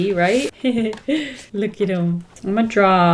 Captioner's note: laughs